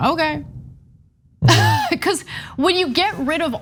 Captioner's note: laugh